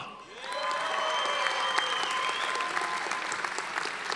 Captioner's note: audience applauding